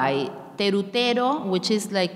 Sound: speaking in a foreign language

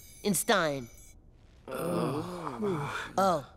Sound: groaning

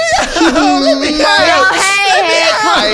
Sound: sobs

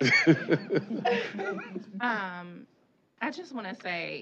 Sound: laughter

